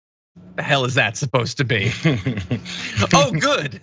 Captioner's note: laugh